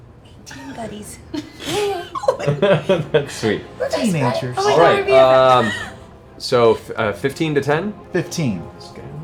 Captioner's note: chuckling